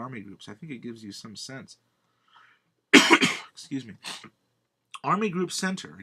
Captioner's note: coughs